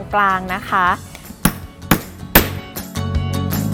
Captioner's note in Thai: เสียงตอก